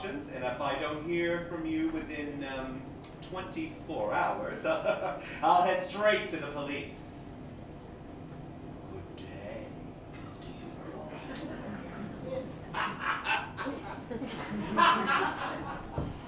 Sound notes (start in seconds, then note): 4.7 Mr. Hughes Laughs; 8.7 whispered; 12.6 Mr. Hughes Cackles